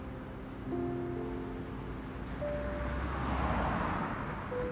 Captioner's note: traffic whooshing